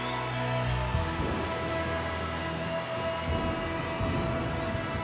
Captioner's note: thunder rumbling